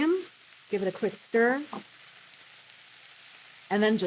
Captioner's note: sizzling